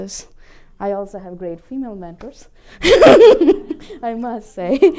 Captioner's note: laughter